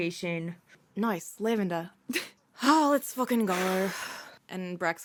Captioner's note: sighs